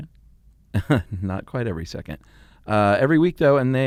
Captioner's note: chuckling